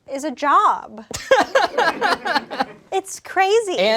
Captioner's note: laughs